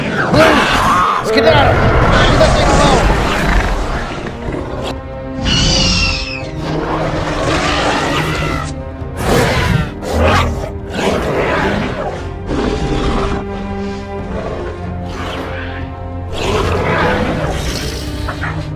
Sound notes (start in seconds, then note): 3.1 carnotaurus Growls; 5.4 Blue Screeches; 6.4 carnotaurus Growls